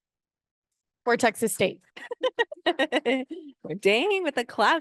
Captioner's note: laughs